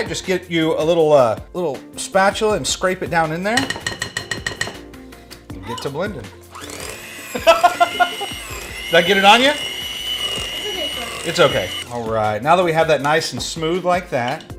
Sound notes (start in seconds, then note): 7.2 laughing